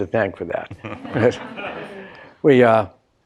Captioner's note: laughing